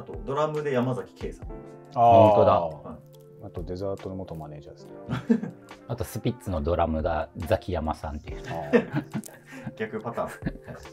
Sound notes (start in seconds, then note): 8.4 laughing